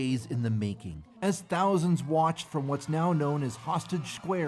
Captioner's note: cheers and Applause